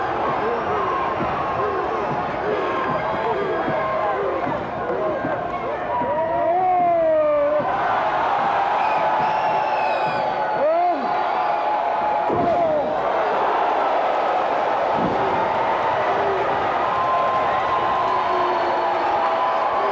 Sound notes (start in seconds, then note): 8.1 cheers